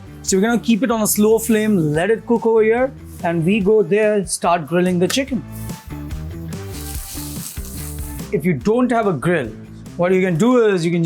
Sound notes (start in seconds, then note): 4.8 upbeat music; 5.5 chicken grilling